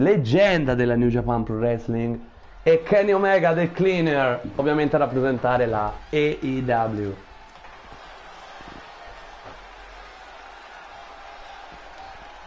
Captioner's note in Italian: Applauso